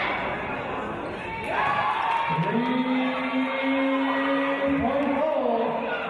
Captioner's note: cheers from audience